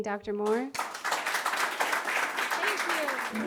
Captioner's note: applause